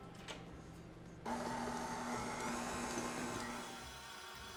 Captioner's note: mixer whirring